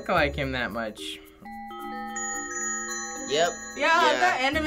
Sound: bells tinkling

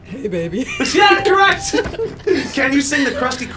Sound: electronic bell chimes

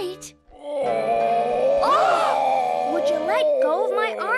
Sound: whinnying; gasping

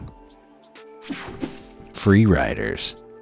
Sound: logo whooshing

